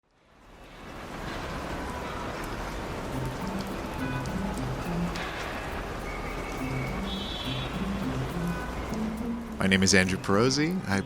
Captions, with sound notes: (gentle music) (cars honking) (whistles blowing) - My name is Andrew Pirozzi,